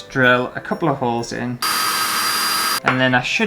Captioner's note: drilling